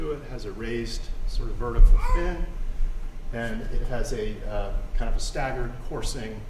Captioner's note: murmurs